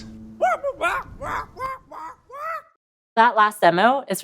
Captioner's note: parrot squawking